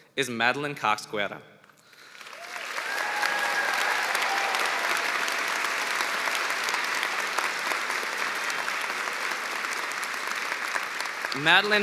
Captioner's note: cheers and applause